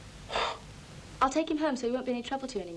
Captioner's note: McIntyre scoffs